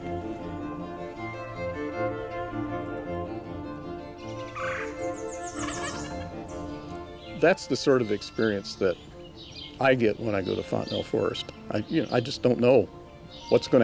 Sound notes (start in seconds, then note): 0.0 upbeat music; 4.2 bird squawking